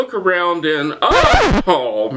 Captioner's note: scratch sound